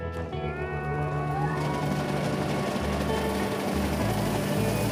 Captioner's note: grinding machine hums